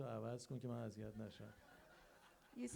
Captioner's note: crowd laughs